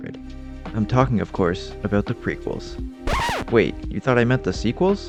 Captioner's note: record Scratch